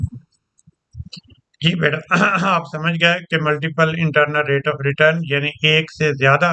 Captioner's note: clears throat